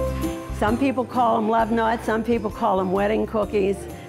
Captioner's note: none